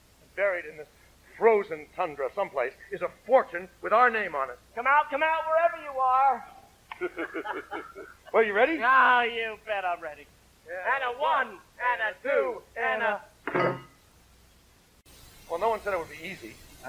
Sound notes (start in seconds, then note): 5.0 shouting; 6.9 laughing congenially; 13.6 grunts as picks clunk against the ground